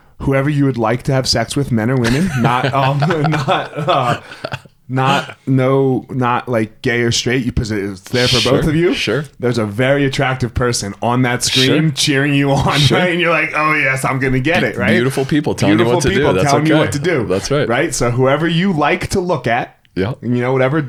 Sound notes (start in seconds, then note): 2.0 laughs; 2.4 stammers